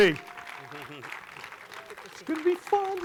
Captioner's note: audience clapping continues